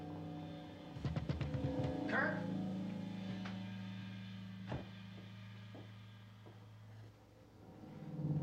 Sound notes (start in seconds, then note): 1.0 knocking